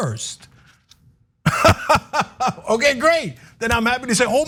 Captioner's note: laugh